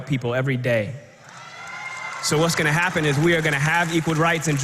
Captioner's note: applause